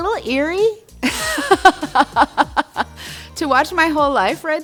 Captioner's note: laughs